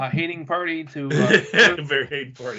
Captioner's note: laughing